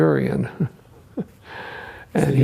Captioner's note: chuckles